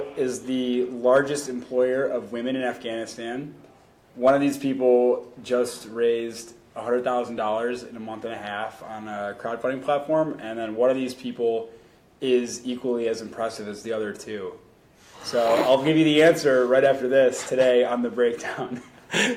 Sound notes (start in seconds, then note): 15.2 snickers; 19.0 laughing